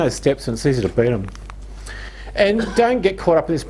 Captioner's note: speaking in heavy accent